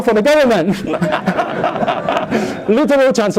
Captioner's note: laughter